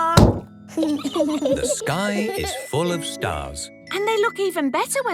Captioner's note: giggling